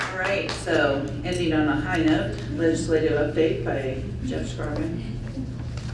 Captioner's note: applause